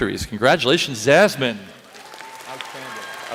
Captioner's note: applause